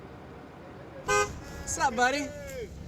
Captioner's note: car horn honks